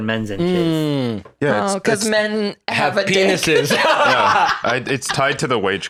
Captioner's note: both laugh